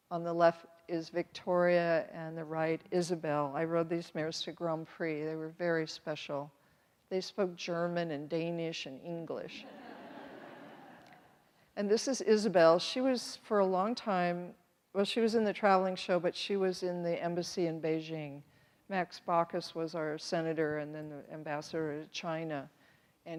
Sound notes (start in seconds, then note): 9.7 audience laughs